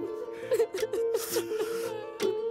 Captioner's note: Crying